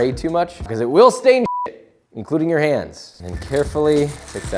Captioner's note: beep